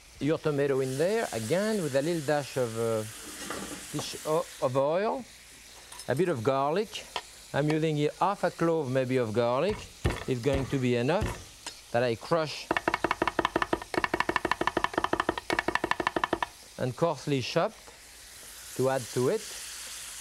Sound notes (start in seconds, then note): 11.1 crushing garlic